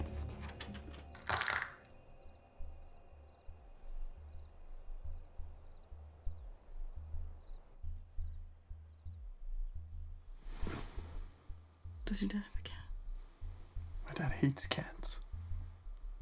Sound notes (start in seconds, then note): 1.0 object rattles